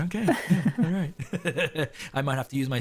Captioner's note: laughs